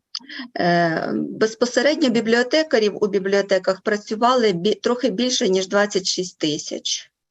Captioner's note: foreign Language Spoken